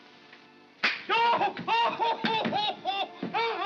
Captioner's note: snap; Ollie yells in pain